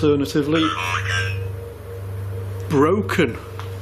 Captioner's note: puck speaking